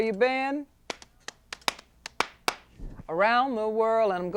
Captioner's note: rhythmic clapping